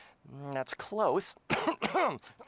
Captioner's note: Italian accent; normal voice; coughing